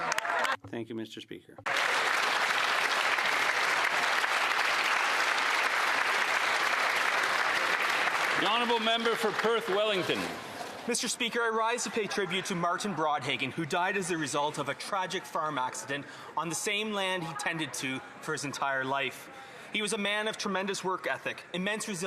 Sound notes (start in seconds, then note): 8.1 some Applause